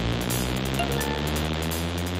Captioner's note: Phone chimes